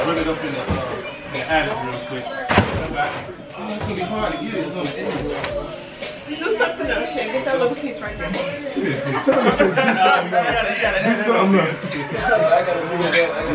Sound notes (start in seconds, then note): 8.4 laughing